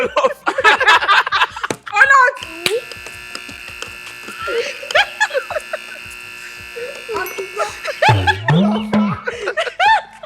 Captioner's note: eneryone laughs